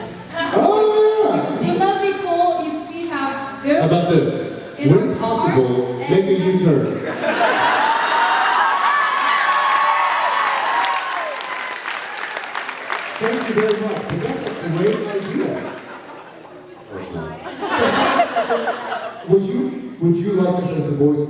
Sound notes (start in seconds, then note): 7.2 laughs, cheers, applauds; 15.2 applauds; 17.4 laughs